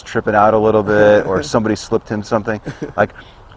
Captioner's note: laughs